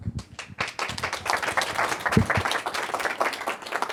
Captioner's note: audience applauding